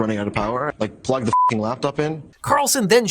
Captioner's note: beep